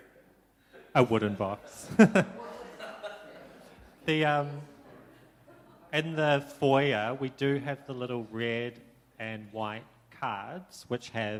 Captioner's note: laughter